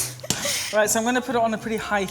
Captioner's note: laughs